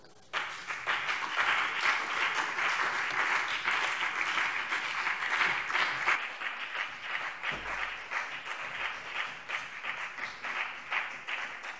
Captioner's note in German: Beifall BÜNDNIS 90/DIE GRÜNEN und CDU